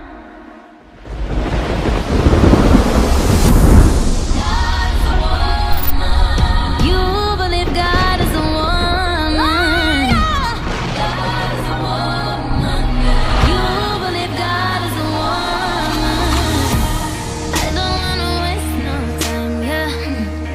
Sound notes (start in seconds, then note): 2.0 thunder